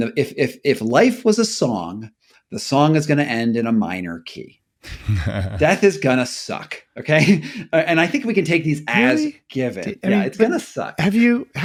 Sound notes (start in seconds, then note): 4.8 chuckling